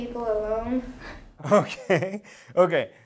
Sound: laughing

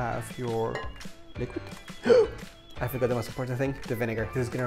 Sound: gasp

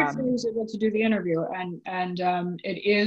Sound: audio warps

